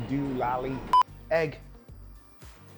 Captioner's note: beep sound